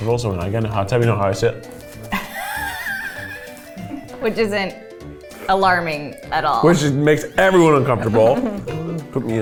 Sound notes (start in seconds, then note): 2.1 laughs